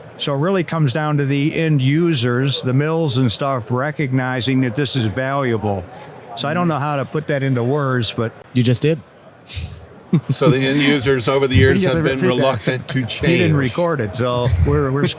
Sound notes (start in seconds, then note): 9.5 laughs